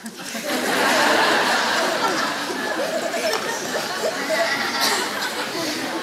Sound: louder laughter

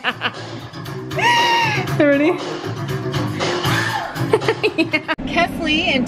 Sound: laughs

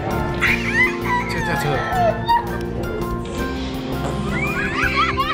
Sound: squeals; kids laughing

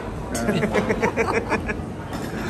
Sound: laughs

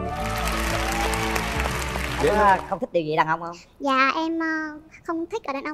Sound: clap

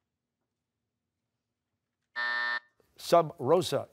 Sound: buzzer

